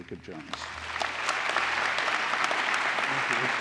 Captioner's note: applause